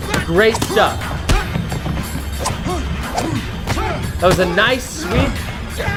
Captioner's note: men grunting